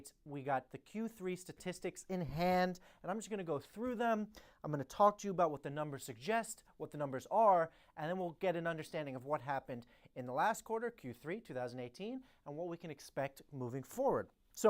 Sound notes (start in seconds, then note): none